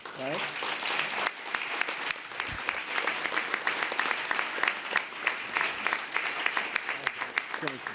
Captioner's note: applause